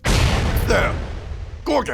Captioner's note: Fire igniting and sound of fireball striking insectoid servitor/producer